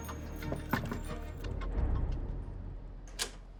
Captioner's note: knocking